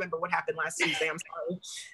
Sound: laughs

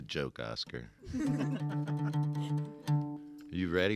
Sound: all laugh

